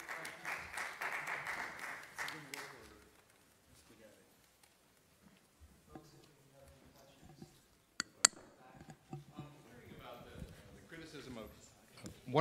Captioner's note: applause